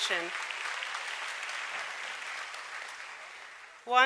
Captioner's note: applause